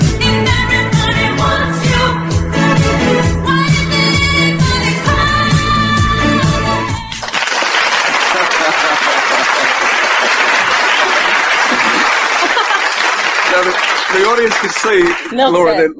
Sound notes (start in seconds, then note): 7.1 audience applauding; 8.2 host laughing